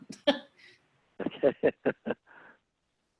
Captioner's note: laughing